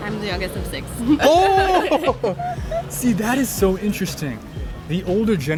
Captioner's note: laughing